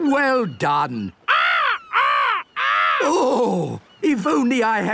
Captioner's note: seagulls cries